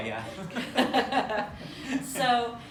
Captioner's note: laughter